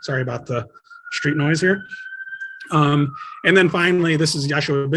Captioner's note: sirens softly howling